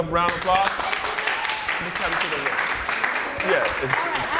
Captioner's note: applause